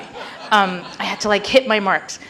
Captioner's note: audience laughing